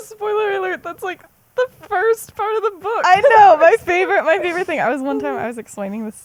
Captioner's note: laughs; laughs